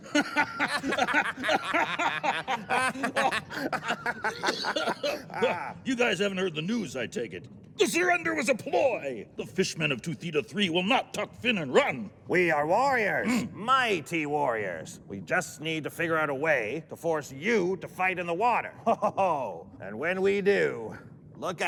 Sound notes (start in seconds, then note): 0.0 laughter; 4.2 cough